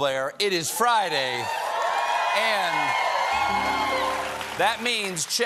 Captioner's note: cheers and applause